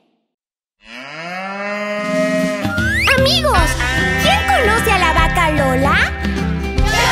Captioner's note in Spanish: Sonido de vaca